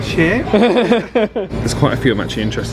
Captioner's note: both laughing